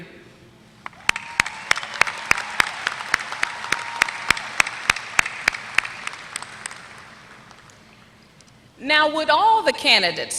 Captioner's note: applause